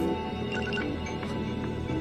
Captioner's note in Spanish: Pitido